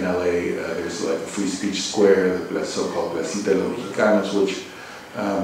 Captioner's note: spanish